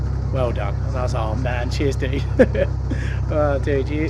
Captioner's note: laughs